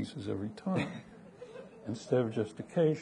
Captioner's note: audience laughing